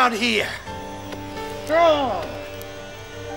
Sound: yelling; soft music

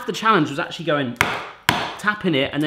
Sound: bangs on counter

